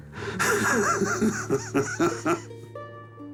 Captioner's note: laughs